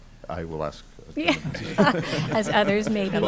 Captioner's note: laughter